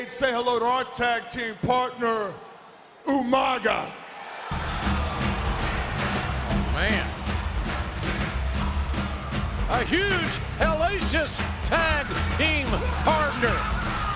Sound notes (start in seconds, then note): 4.9 audience cheering; 4.9 ominous drum music